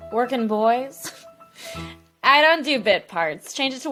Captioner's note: laughs